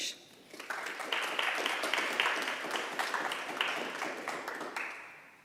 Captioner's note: attendees applauding